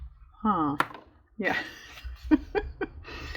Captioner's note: laughs